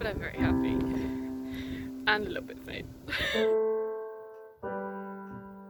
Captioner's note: laughs